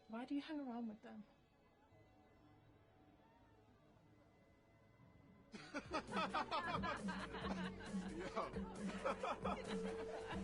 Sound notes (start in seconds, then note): 5.5 Arya and Brice laughing; 5.9 techno music continues